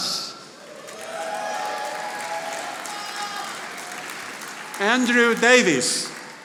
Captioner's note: audience applauding